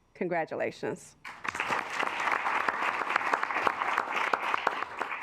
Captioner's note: assembly clapping